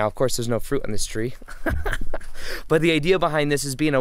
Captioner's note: laughing